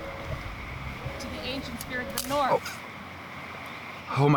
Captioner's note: branch cracking